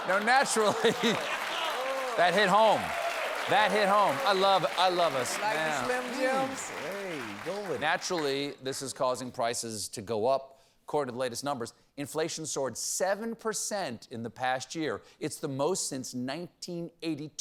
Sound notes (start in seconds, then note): 0.4 laughter; 1.3 applause